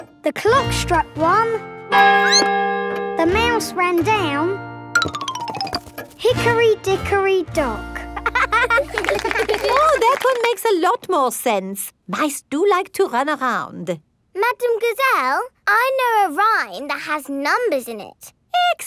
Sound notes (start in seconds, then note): 2.1 clock chimes; 2.2 squeaks; 8.2 laughing